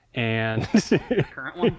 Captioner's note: laughs